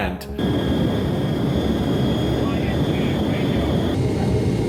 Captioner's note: plane engine roaring